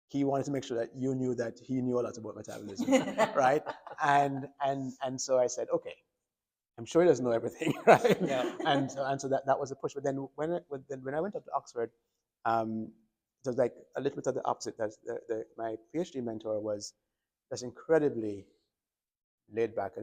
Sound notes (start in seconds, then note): 2.5 doctors laughing